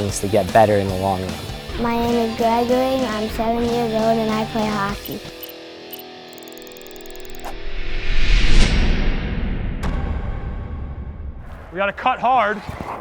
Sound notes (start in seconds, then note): 6.2 upbeat music; 7.4 wind howls